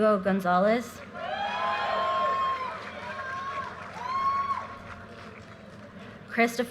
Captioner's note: audience cheers and applause